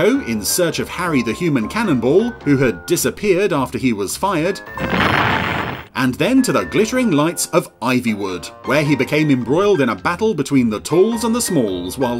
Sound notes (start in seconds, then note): 4.7 cannon Fires